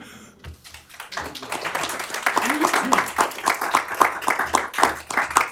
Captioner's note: applause